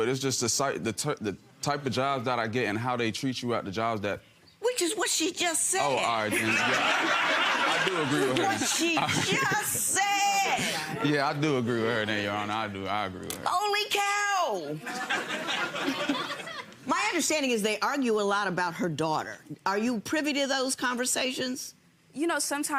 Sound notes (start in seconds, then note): 6.3 audience laughing; 14.8 audience laughing